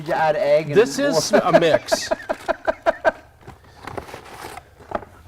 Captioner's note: laughter